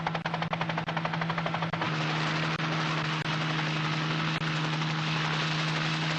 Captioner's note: helicopter sound